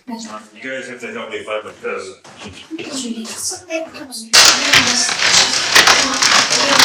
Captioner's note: crashing